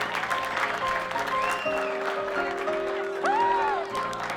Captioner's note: crowd clapping